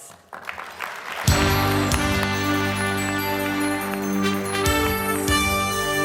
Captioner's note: audience applauds; spirited music